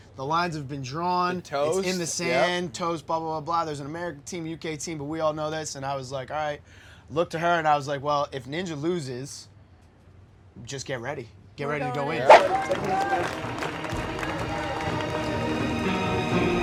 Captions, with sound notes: "The lines have been drawn, "it's in the sand." Toast, blah blah blah. "There's an American team, UK team, but we all know this." And I was like all right. Looked to her and I was like, "Well if Ninja loses, just get ready. "Get ready to go in." (air whooshing) (dramatic music)